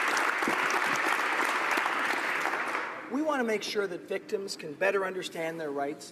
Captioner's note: applause